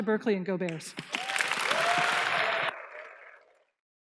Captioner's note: applause